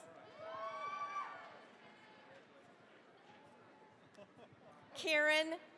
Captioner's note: cheering, applause